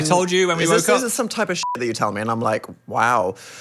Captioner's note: beep